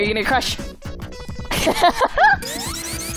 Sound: laughs

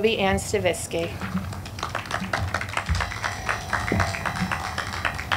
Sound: audience clapping

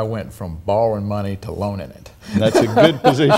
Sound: laughs

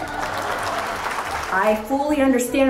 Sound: crowd clapping

